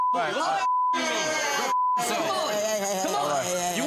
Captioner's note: shouting over each other